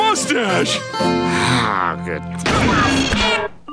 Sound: sighing

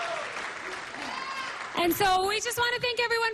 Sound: cheering and applause

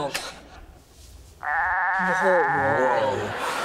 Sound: goats bleating

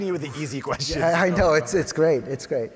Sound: chuckles

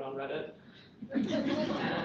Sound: laughter

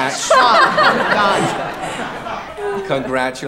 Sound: audience laughing

